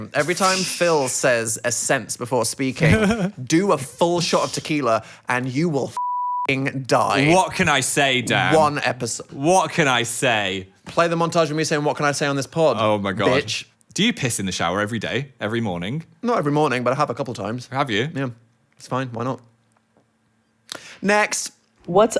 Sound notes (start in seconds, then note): 5.9 beep